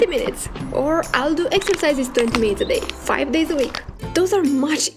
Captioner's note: bones cracking